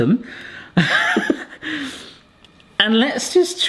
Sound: laughing

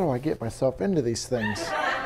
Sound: laughter

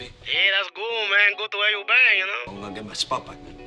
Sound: voiceover

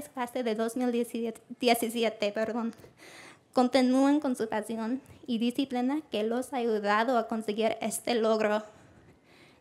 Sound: foreign Language

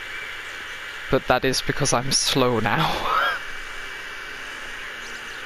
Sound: laughs

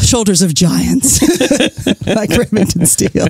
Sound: laughs

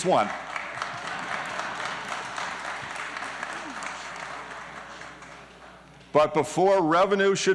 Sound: applause; laughing

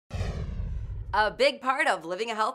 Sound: whooshing

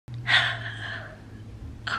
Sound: sighs

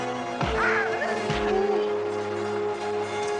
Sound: yelling; hitting

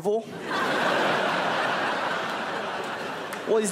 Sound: crowd laughs

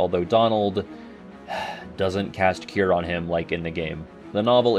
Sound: sigh

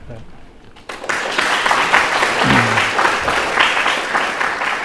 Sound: clapping

